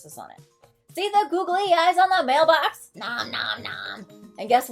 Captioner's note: nom Nom Nom